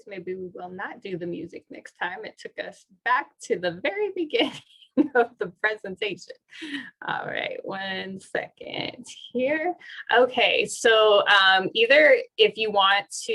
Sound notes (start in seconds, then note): 4.9 laughter